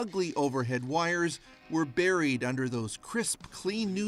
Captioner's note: speaking russian